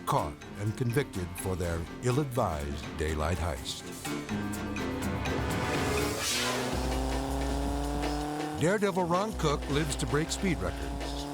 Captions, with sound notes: and convicted for their ill-advised daylight heist. (air whooshes) (engine roars) Daredevil Ron Cook lives to break speed records.